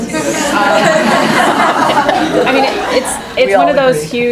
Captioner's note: laughing